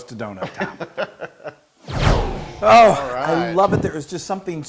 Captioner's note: laugh